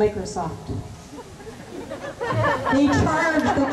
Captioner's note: laughter